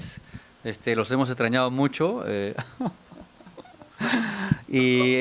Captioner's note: fakes tears while joking